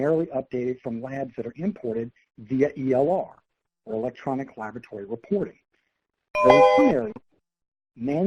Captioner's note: computer tone